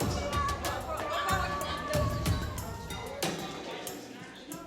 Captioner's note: chatter